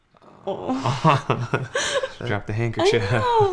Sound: laughing

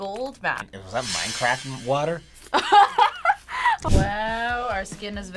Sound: laughs

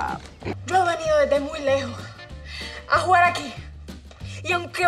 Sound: Esti speaks in Spanish

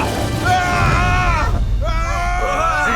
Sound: screaming continues

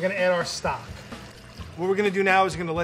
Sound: pouring stock

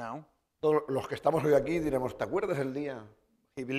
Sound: speaking spanish

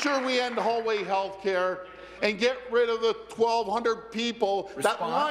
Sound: applause

